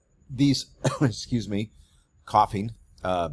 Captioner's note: coughs